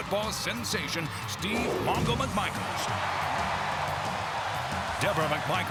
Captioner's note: crowd cheering